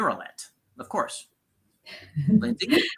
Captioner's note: laughs